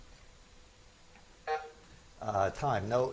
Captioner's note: buzzer buzzes